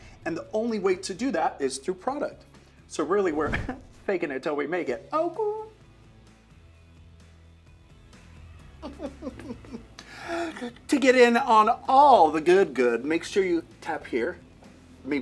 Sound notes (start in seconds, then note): 6.4 laughing; 6.4 upbeat music